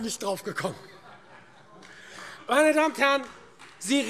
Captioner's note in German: Heiterkeit und Beifall : Genau!